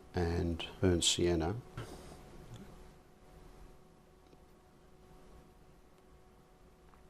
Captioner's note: silence